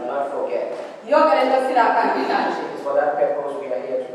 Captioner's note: woman speaking foreign language